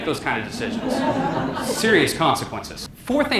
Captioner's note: audience laughter